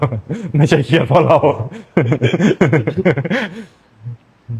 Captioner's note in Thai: เสียงหัวเราะ